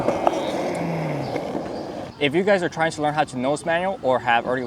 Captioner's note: wind blowing